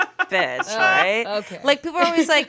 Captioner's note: laughs